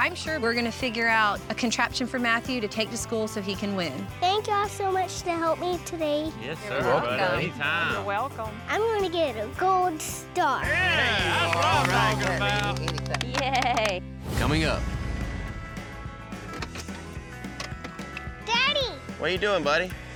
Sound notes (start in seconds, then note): 10.7 everyone cheers, claps